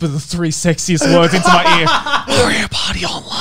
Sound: laughing

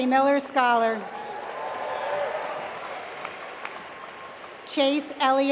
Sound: applause

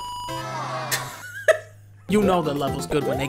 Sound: chuckles

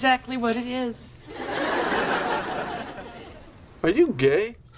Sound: audience laughs

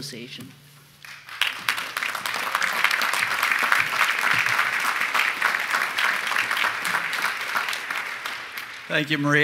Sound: applause

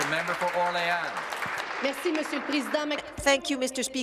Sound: applause

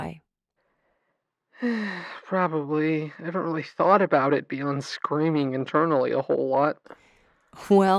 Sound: sighs

